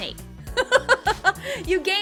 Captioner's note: laughing